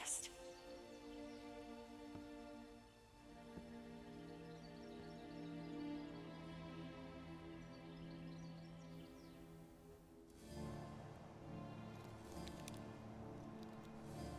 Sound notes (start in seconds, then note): 0.2 soft music; 7.3 birds singing; 10.7 soft music